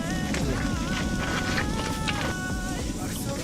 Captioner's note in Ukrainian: Ням ням~